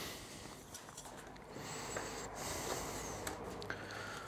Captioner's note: concentrated breathing